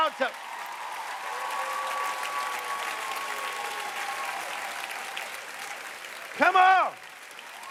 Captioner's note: cheers and applause